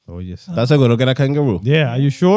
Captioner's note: speaking In Foreign Language